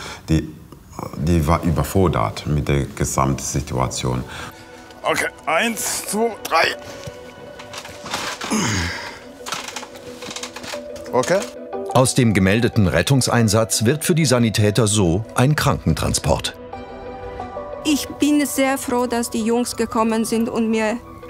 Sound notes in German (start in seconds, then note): 6.8 Angespannte Musik; 7.5 Ächzen